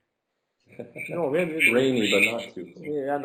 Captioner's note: laughing